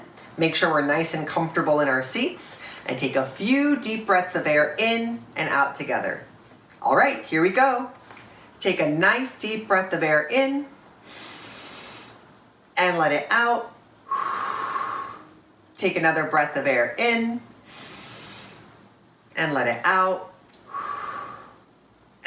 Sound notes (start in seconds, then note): 11.0 inhale; 14.0 exhale; 18.5 inhale; 20.6 exhale